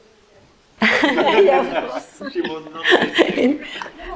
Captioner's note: group laughs